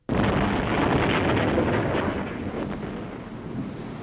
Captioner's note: thunderous explosion